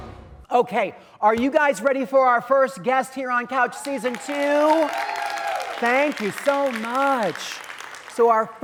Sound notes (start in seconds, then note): 3.8 audience applauding